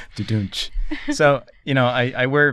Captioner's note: laughter